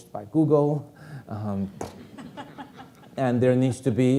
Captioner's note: audience laughing